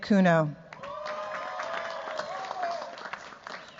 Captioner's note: cheers, applause